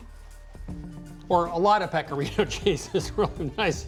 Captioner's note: chuckling